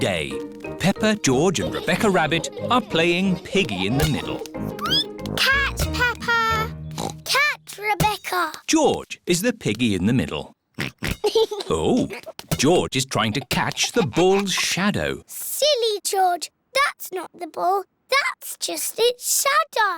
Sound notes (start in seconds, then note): 4.4 squeaks; 6.9 oinks